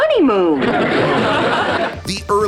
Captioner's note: laughter